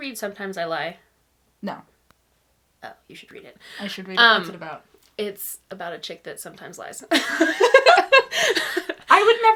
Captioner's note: laughs